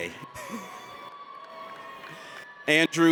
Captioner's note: audience cheers